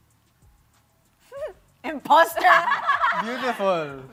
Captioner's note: giggles, laughs